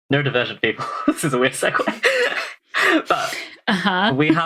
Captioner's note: laughs